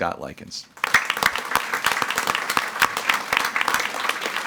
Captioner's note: all applauding